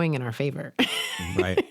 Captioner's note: chuckles